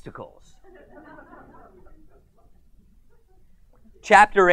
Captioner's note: audience laughs